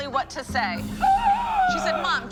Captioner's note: gasp